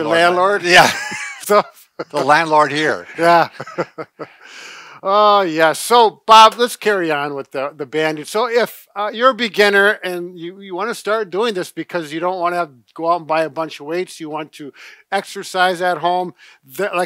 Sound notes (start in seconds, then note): 0.1 laugh